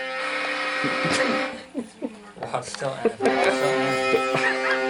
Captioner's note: group snickering